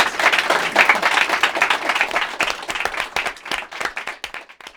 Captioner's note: applause